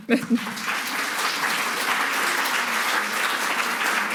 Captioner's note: audience applauding